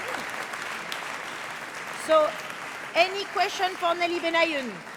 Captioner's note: applause